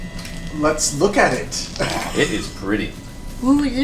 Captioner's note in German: lacht